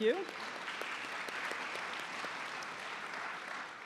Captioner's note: applause